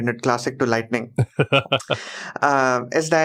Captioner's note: laughs